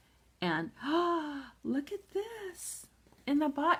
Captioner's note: gasps